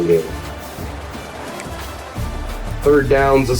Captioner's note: crowd Noises